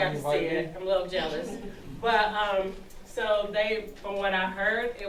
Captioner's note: parents chuckling